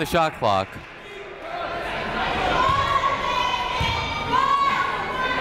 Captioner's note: crowd chattering faintly